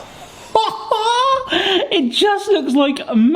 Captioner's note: laughing